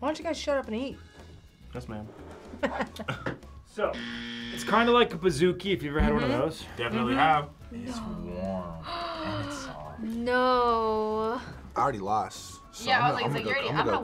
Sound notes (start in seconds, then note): 2.4 both laugh; 3.9 buzzer rings; 8.8 gasps